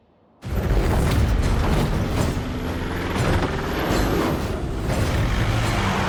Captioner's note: door opens